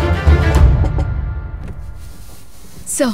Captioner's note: Knocking